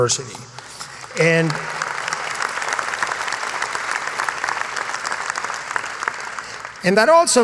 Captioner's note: applause